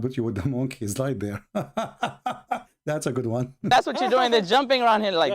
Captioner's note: Ketawa